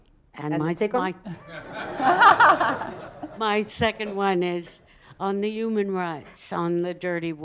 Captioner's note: laughter